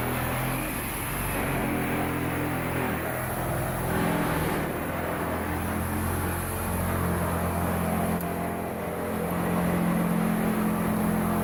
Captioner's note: saw cutting